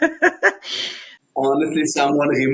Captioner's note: laughs